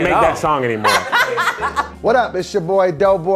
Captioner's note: laughing